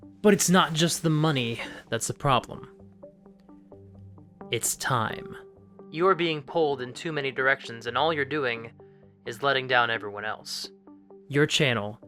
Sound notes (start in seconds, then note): none